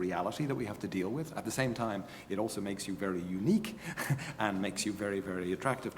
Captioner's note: laugh